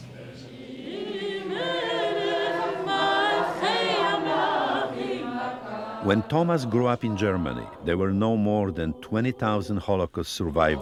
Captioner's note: voice-over